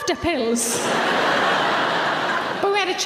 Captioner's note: audience laughing